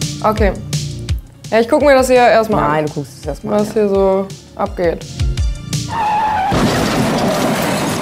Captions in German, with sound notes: Okay. Ich guck mir das hier erst mal an. Du guckst dir's erst mal an, ja. - Was hier so abgeht. (Bremsgeräusche, Krachen)